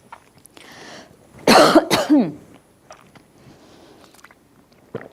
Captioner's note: coughing